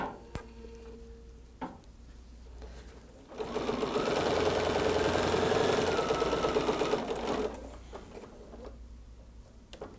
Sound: sewing sounds

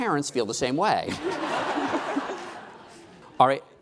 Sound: laughing

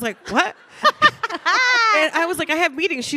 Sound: Ilana laughing

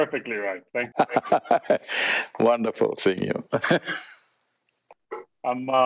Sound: laughs

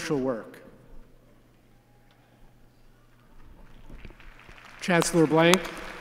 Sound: applause

